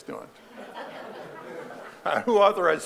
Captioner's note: audience laughing